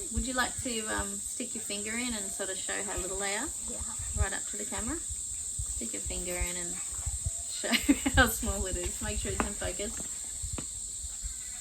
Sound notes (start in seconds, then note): 7.4 laughs